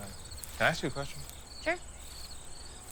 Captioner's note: crickets chirping